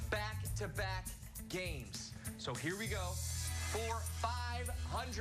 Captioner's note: none